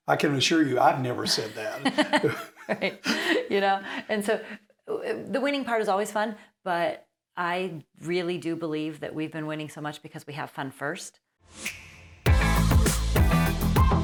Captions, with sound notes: - I can assure you, I've never said that. (both laugh) - Right. You know. And so the winning part is always fun, but I really do believe that we've been winning so much because we have fun first. (upbeat music)